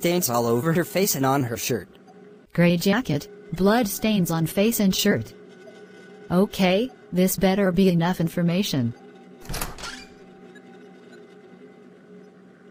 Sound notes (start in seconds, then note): 9.4 door opens